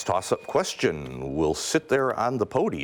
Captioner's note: ding